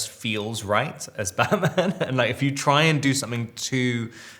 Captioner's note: Robert chuckles